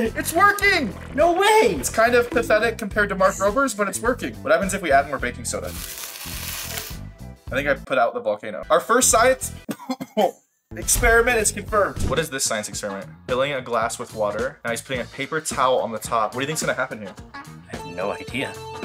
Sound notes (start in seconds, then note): 5.8 baking soda scratching; 9.6 coughs